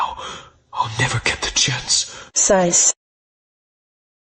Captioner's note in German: Seufzt